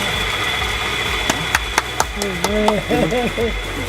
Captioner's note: clapping hands